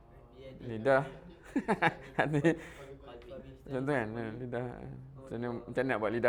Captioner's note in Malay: ketawa